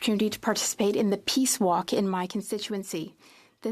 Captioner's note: speaking French